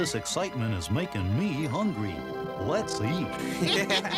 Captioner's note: all laugh